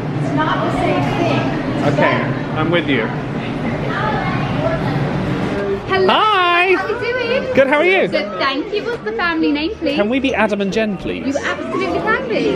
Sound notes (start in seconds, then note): 4.1 crowd chattering